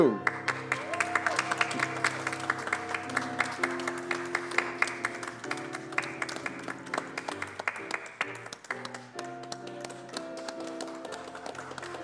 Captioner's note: applause and music